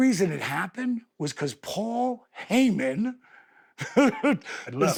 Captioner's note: laughs